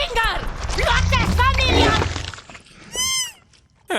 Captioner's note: growls